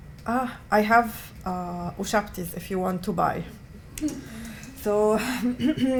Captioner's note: non-english